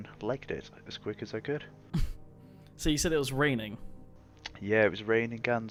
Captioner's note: laugh